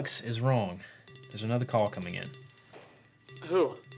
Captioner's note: phone ringing